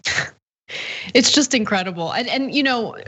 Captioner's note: laugh